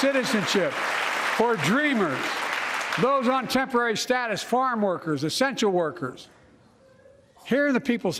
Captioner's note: applause